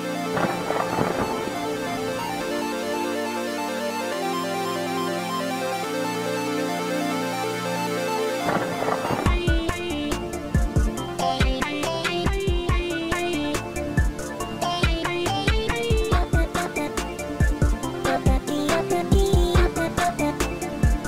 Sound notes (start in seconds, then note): 8.3 skid